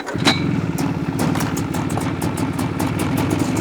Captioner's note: engine sputtering